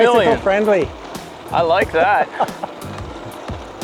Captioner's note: laughs